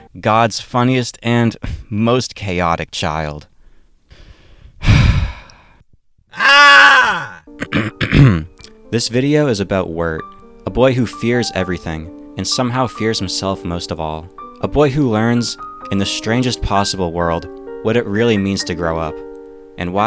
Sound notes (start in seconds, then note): 4.8 chuckle; 7.0 deep breath; 7.6 ahem